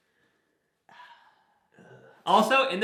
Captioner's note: both sigh